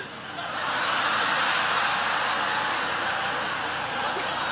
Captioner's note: audience laughing